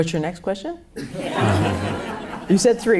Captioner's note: laughs